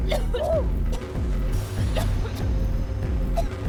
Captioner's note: coughing